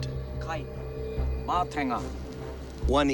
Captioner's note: speaking Maori